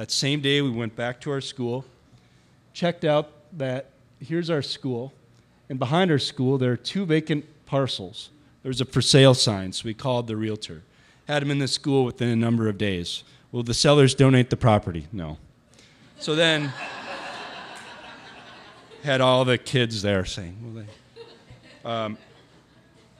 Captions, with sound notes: That same day we went back to our school, checked out that, here's our school, and behind our school, there were two vacant parcels. There was a for sale sign, so we called the realtor, had them in the school within a number of days. Will the sellers donate the property? No, so then ... (audience laughter) Had all of the kids there saying, "Will They?"